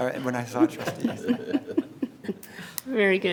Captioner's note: everyone laughs